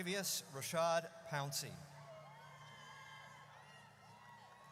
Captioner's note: audience cheers